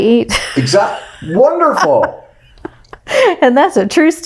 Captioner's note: laughs